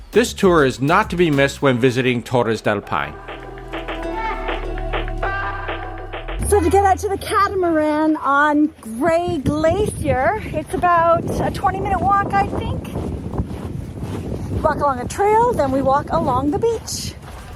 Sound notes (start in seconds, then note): 13.1 footsteps crunching; 13.1 wind blows